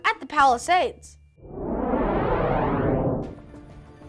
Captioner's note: whoosh